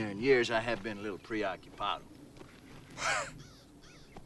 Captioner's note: laughs